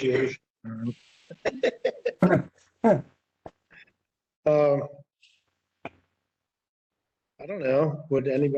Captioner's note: laughter